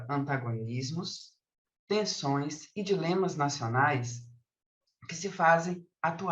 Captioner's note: continues speaking in Portuguese